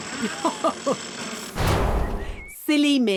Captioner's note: chuckles